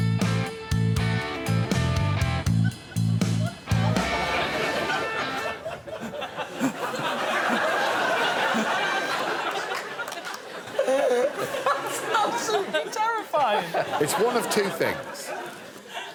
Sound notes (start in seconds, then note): 0.0 slow rock music playing; 5.8 laughter